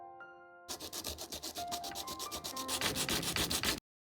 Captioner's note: coarse rasp of sandpaper